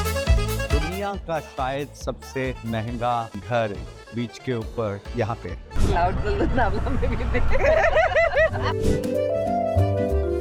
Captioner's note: laughs